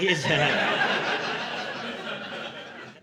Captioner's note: laughter